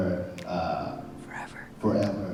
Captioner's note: whispering